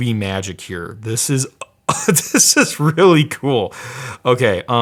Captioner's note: laughs